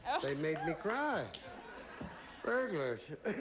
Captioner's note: audience laughing